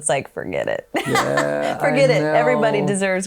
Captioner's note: laughs